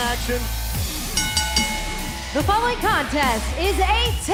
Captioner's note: bell ringing